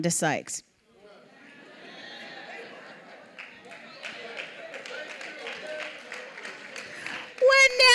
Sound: audience reacting

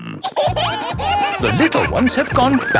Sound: kids giggling

